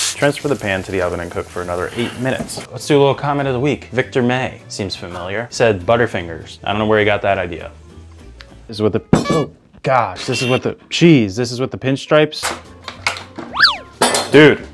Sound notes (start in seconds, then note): 9.2 pear thumping; 9.2 horn sounding; 13.5 horn whooshing